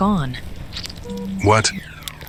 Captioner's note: power generator sputters and stops working